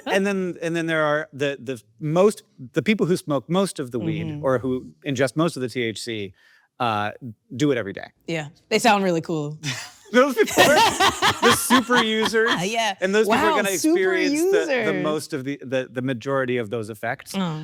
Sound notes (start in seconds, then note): 10.4 Akilah laughing